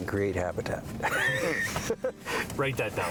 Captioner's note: laughter